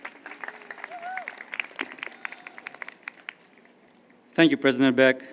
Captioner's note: applause